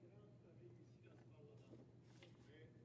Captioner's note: speaking French